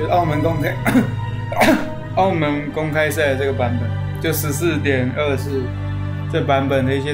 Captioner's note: cough